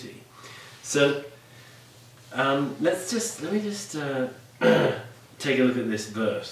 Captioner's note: clears throat